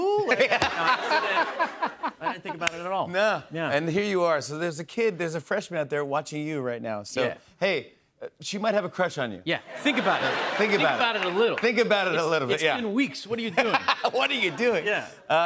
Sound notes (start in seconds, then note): 0.2 laughter; 9.7 laughter